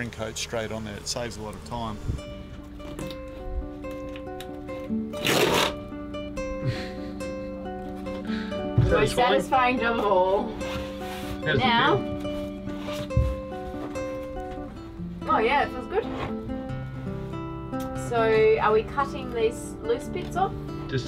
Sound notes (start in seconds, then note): 2.3 soft music; 5.2 paper cracking